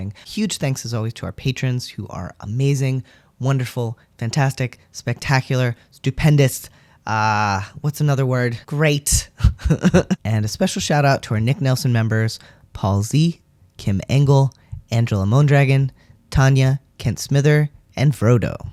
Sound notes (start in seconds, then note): 9.4 laugh